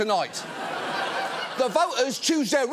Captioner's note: studio audience laughing